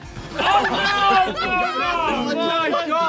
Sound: players laugh

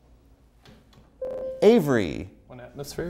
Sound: buzzer

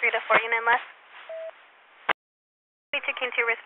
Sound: busy Tone

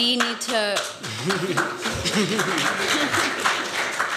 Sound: applause

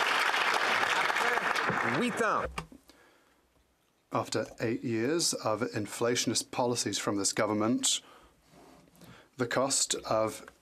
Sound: some Applause

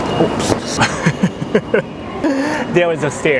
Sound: chuckle

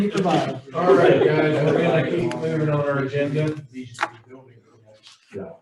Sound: laughing

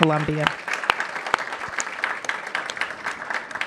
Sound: applause

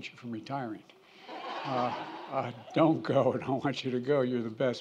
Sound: laughter

